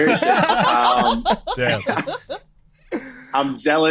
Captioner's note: group laughs loudly